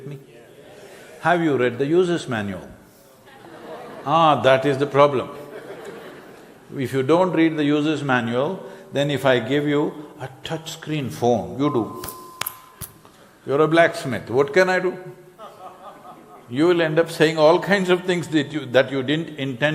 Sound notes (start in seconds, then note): 15.3 laughter